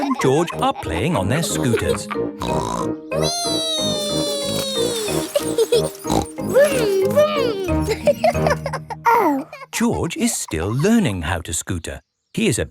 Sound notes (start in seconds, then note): 2.4 snorts; 5.0 laughs and snorts; 8.3 laughing